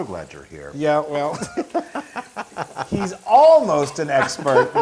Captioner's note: laugh